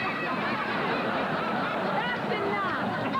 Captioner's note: laughter